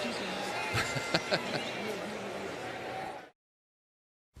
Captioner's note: laughs